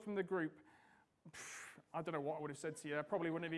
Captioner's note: sighs